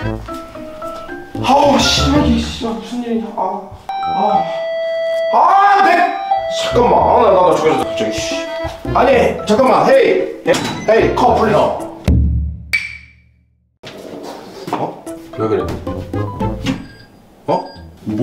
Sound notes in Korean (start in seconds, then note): 3.9 바로 울리는 초인종